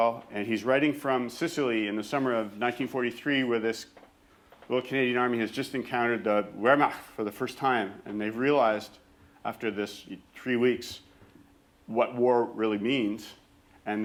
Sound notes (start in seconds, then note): 6.6 german